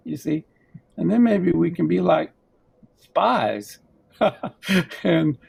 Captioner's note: laughs